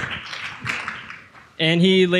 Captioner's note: audience cheering